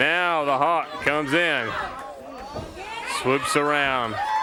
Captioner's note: crowd chatter